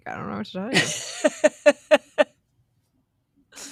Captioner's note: laughs